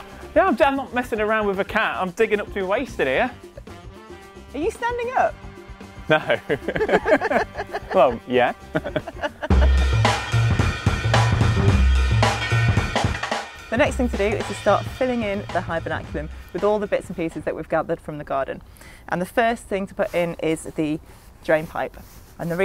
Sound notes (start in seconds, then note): 6.0 laughing; 6.0 laughs; 8.8 chuckles; 10.6 upbeat drum riff